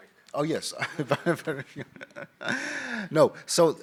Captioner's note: laughing